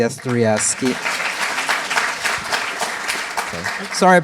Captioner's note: applause